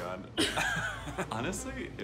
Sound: laughing

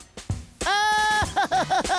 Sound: laughing

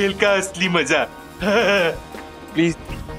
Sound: chuckles

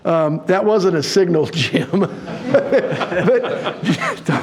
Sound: laughing

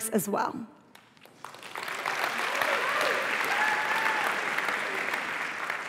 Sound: applause

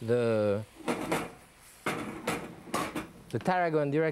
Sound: pan clunking

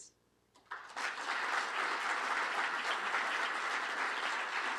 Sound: applause

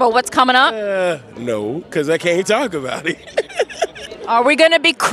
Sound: giggles

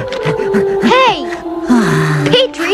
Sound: sighs

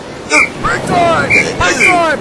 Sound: whistle Blowing

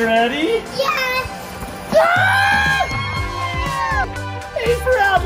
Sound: excited screaming

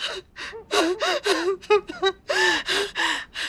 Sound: cries

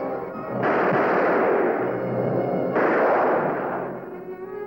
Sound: gunfire

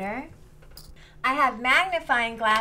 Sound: coin clicks

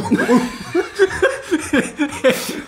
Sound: laughs

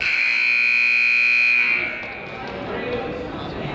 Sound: buzzer honks

